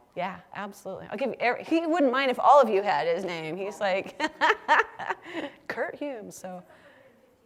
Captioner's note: laugh